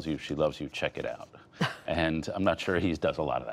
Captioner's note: laughter